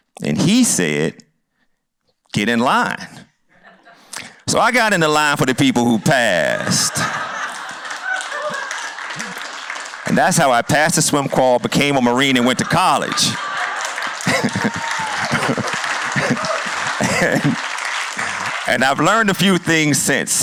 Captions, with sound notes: And he said, "Get in line." (laughter) So I got in the line for the people who passed. (laughter and applause) And that's how I passed the swim qual, became a Marine, and went to college. (chuckles) (laughter and applause) And... And I've learned a few things since.